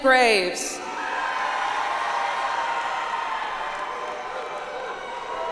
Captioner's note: audience applauds